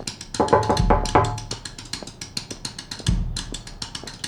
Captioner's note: knocking at the door